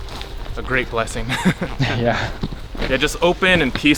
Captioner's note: both laugh